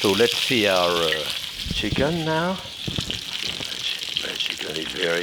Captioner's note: chicken sizzling